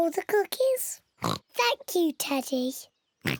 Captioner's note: in normal voice; oinking